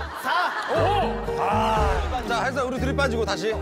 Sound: shouting 5 loudly

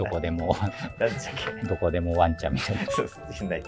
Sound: laughing

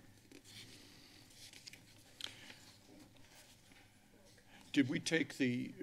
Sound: paper rustling

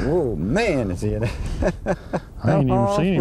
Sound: laughter

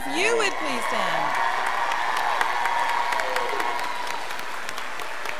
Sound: scholars applauding

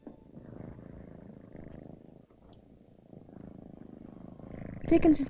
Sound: cat softly purring

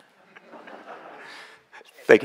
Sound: laughter

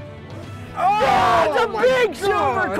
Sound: both shout

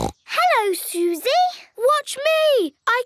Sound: snorts

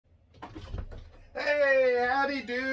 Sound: door opens

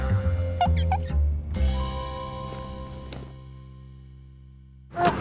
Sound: graphics boing; animation squeaks

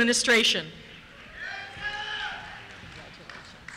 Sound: cheers

